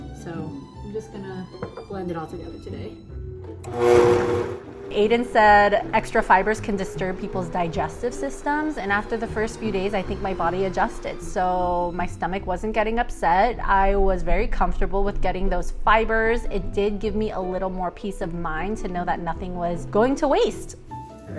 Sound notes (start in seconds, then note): 3.6 blender running